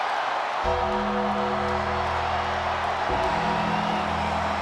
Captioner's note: bell tolls